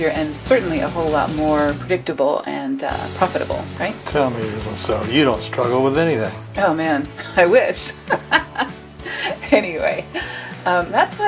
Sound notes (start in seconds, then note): 7.8 laughs